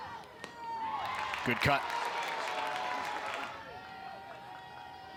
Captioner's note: crowd cheers